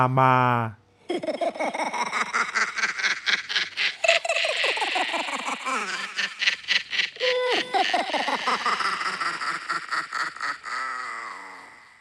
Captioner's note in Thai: เสียงหัวเราะ